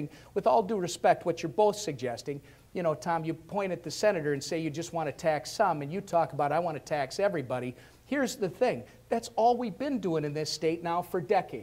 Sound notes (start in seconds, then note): none